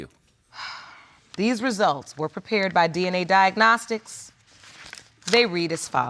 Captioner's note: sighs